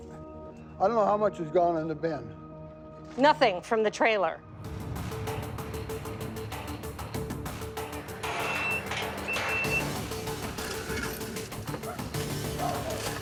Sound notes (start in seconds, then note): 4.7 dramatic music; 7.4 metal clangs; 8.0 intense music